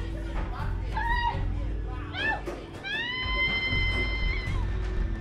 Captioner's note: Eliza screaming on the phone